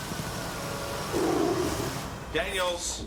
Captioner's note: tiger roars